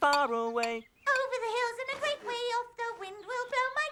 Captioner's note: high voice